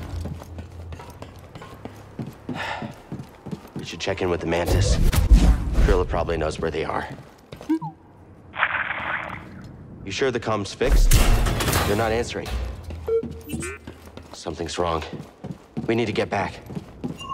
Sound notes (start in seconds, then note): 2.5 sighs; 8.4 static crackles, no answer